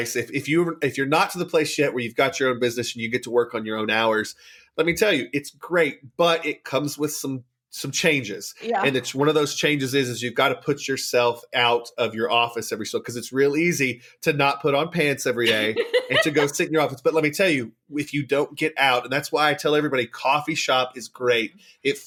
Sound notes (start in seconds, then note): 15.4 laughs